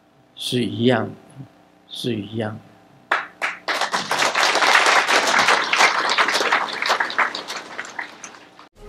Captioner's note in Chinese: 眾鼓掌